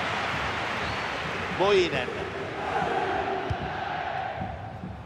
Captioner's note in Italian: Applauso